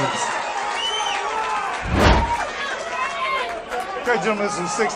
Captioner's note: applause